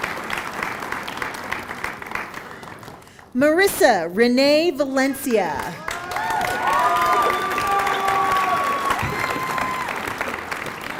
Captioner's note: applause